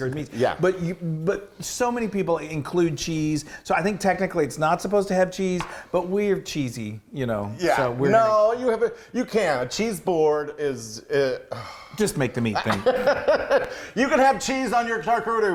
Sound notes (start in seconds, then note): 11.5 he sighs; 12.6 laughs